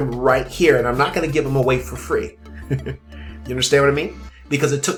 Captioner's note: chuckles